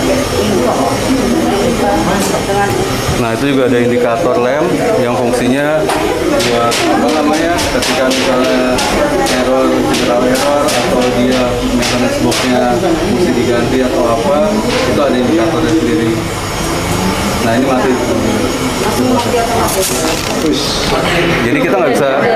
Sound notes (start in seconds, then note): 0.0 printer machine sound; 5.2 printer machine sound; 9.2 printer machine sound; 13.8 printer machine sound; 16.0 printer machine sound